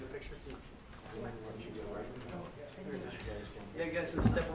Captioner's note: chatter